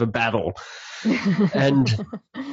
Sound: laughing

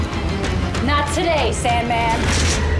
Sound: gun cocking; mummy exploding; gun blasting

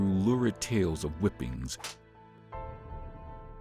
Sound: whip cracks

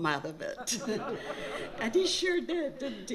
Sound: laughter

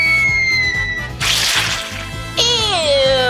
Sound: splats

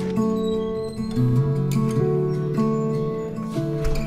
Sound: door screeching

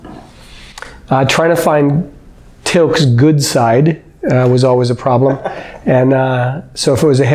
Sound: laughter

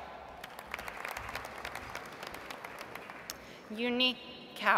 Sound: audience applauds

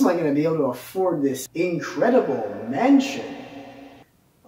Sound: echo

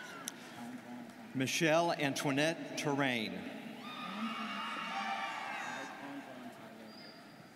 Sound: students cheering

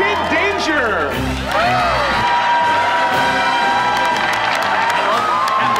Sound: cheering, applause

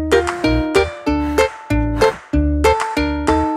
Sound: blowing

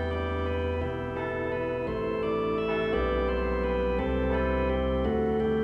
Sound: church bells ringing; church organ music

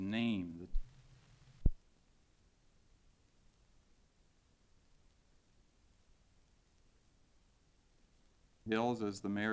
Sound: silence

